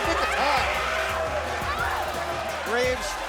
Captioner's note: crowd cheering